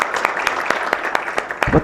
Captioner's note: applause